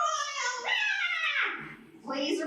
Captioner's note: Kermit YAAY noise